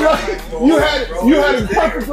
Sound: laughs

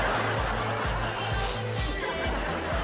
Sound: sniffing

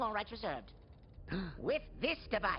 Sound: gasps

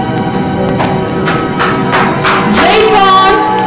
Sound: footsteps approaching

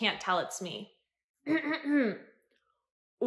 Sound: clears throat

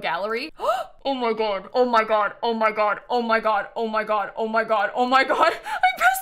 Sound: gasps

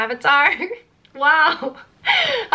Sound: chuckles

